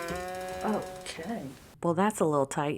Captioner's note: clown sounds